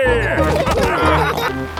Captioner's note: all laughing